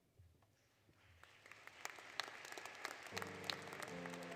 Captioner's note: applause; applause, Music